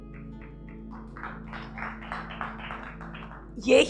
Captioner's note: audience claps